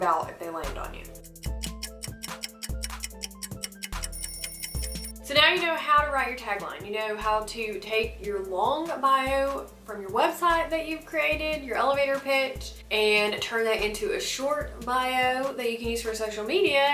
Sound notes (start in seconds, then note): 1.3 ticking; 2.0 alarm ringing